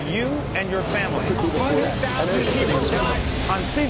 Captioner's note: chatter